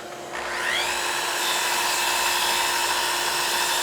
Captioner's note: saw whirs